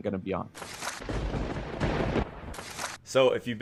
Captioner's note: lightning strike and thunder clap